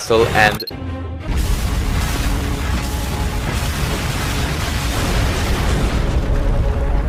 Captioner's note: explosions everywhere